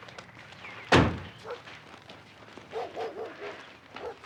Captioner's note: dog barking